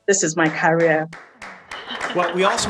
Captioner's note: applauds